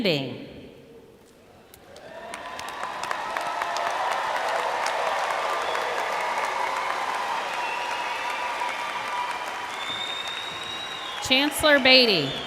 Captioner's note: applause